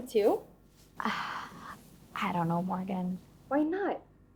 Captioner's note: sighs